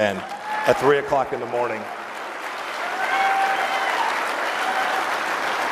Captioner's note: applause